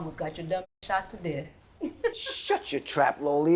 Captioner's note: laughs